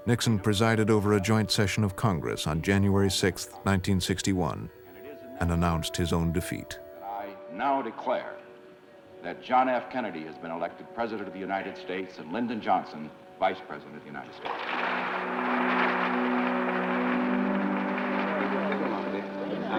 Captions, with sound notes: Nixon presided over a joint session of Congress on January 6, 1961 and announced his own defeat. I now declare that John F. Kennedy has been elected president of the United States and Lyndon Johnson vice president of the United States. (applause) So long, Dick, I certainly enjoyed